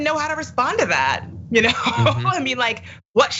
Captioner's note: laugh